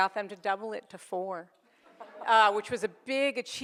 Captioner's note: audience laughs